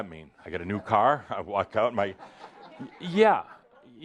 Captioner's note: some laughter